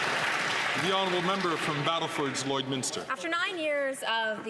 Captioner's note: some Applause